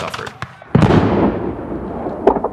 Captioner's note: cannon fires